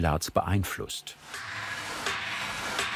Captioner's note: hammering in the background